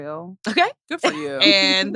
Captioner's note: laughs